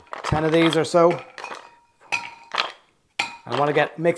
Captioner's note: ice clinks